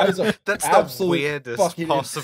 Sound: laughter

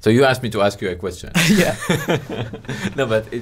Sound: both laughing

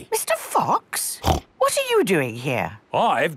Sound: snorts

